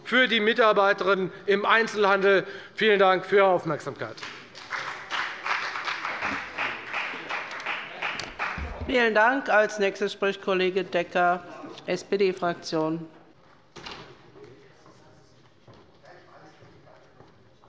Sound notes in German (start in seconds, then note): 4.1 Beifall bei der FDP